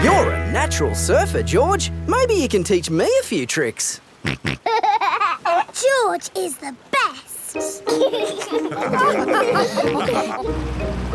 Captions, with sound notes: You're a natural surfer, George! Maybe you can teach me a few tricks? (SNORTS AND LAUGHS) George is the best! (ALL LAUGH)